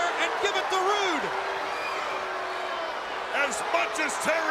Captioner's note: crowd cheering